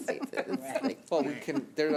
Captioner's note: laughing